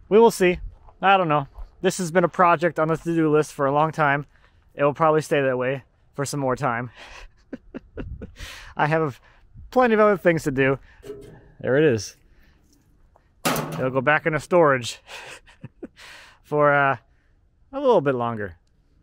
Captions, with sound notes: We will see. I don't know, this has been a project on the to-do list for a long time. It'll probably stay that way for some more time. (chuckling) I have plenty of other things to do. There it is. (metal door clangs) It'll go back into storage for a little bit longer.